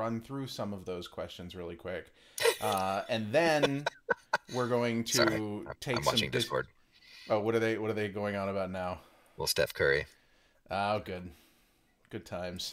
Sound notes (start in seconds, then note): 3.4 laughing